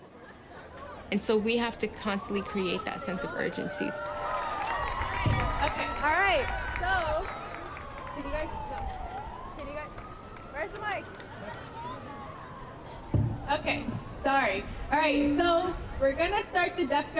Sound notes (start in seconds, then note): 3.9 applause